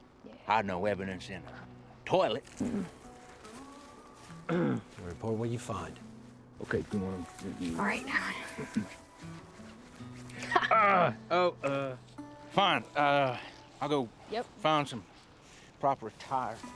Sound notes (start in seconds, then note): 4.4 clears throat; 10.6 groans